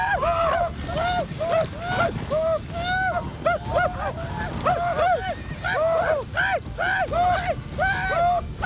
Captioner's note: whooping